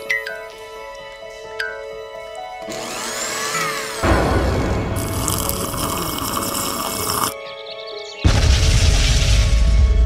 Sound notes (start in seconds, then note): 0.1 blink pings; 2.6 blender whirring; 4.0 thunder crashes; 4.9 smoothie gurgling; 7.5 birds chirping; 8.3 explosion bangs